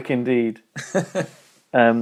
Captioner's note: laughing